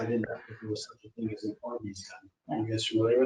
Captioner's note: speaking faintly